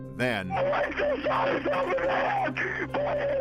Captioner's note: on phone